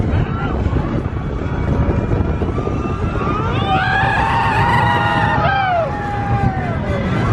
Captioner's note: coaster rumbling; people screaming